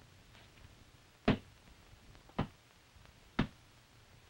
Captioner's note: blows landing